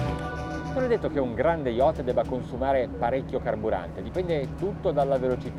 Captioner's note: speaking foreign language